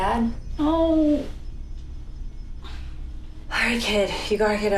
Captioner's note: groaning